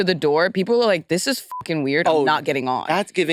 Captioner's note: beep